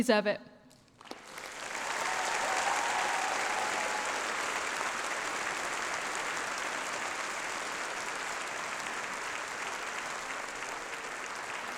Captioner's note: applause